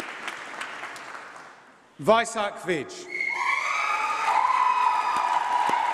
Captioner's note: applause